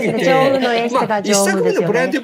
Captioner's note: laughs